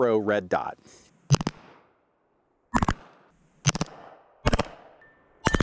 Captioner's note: muffled gun firing